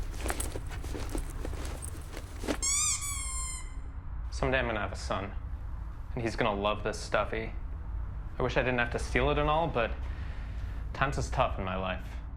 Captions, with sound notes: [toy squeaking] Someday I'm going to have a son, and he's going to love this stuffy. I wish I didn't have to steal it at all, but times is tough in my life.